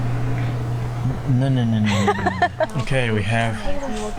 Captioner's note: laughs